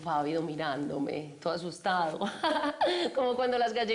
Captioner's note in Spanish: Risas